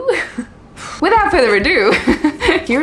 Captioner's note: chuckles; sighs